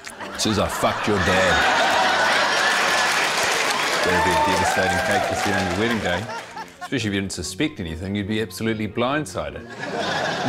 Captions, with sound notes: It says, 'I fucked your dad.' (LAUGHTER) That'd be a devastating cake to see on your wedding day, especially if you didn't suspect anything. You'd be absolutely blindsided.